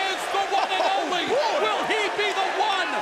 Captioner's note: crowd cheering